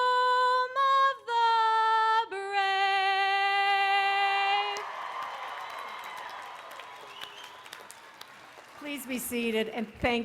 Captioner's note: cheering